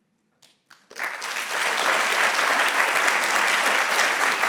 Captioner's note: audience clapping